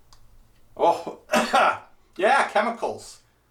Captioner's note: coughs